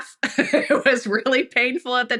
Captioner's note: laughs